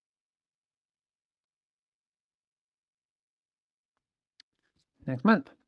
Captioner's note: silence